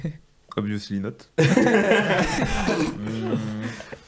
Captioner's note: all laughing